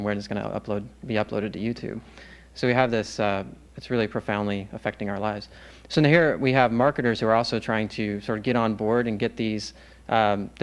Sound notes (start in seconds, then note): none